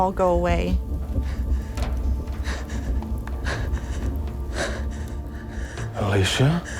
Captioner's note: rapidly breathing